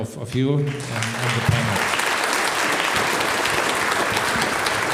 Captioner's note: audience applauds